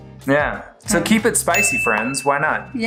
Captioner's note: bell dings